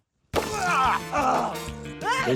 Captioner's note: groans; grunts